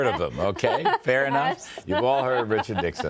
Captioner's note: laughter